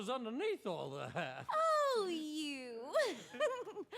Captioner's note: giggles